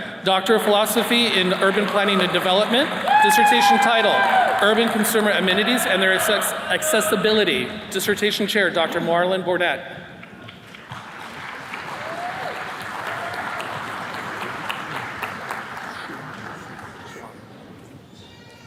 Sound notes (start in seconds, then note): 10.2 attendees clapping